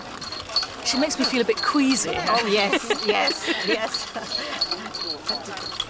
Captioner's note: laughs